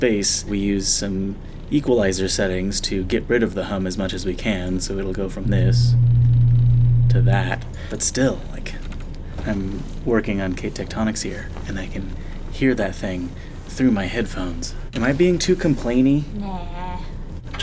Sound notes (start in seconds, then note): 5.4 loud hum; 5.4 low hum